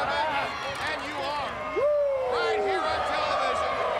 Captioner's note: Ric cheering